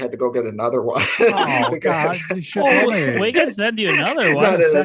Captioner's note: the team laughs